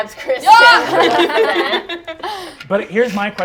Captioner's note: laughter